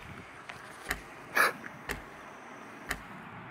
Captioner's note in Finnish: dramaattista itkua